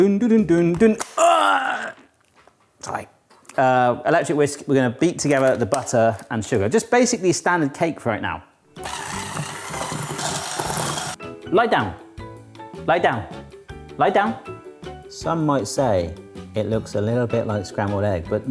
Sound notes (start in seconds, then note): 8.8 whisk whirring